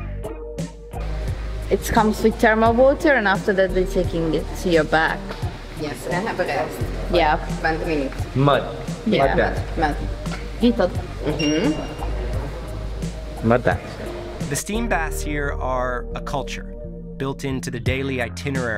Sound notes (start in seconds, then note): 10.3 speaking foreign language